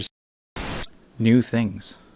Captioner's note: static